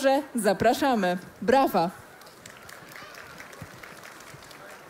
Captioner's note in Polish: oklaski